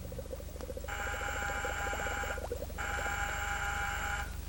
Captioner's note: buzzing